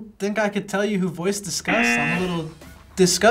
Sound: buzzer rings

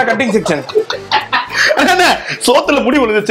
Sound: laughs

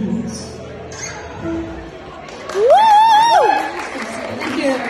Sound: applause

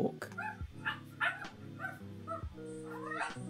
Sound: dog barking

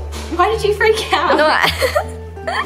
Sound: laughs

